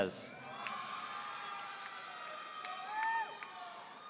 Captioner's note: audience cheering